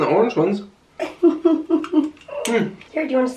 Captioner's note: laughs